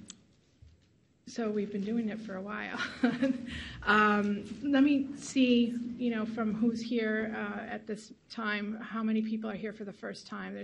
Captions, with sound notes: So we've been doing it for a while-- (laughs loudly) Let me see from who's here at this time, how many people are here for the first time.